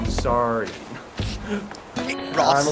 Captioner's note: laughs